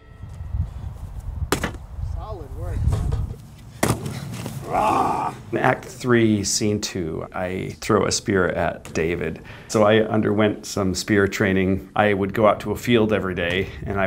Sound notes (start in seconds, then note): 1.5 cardboard thumps; 3.8 cardboard thumps; 4.7 growls